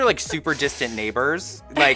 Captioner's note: laughs